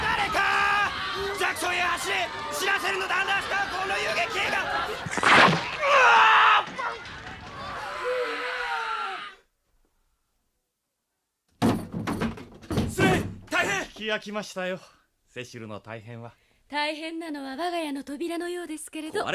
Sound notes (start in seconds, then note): 5.0 SFX: stab!; 11.6 SFX: barging through door